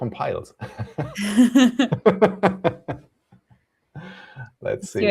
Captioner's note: laughter